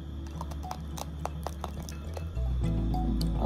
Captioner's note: A sound of breaking the teeth